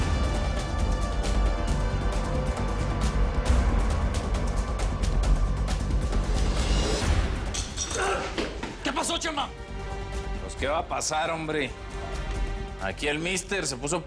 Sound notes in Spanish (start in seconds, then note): 7.8 Quejidos